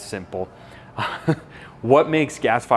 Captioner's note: laughs